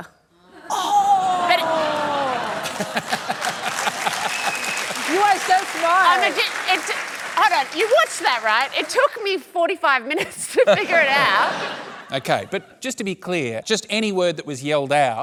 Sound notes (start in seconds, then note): 0.7 cheering and applause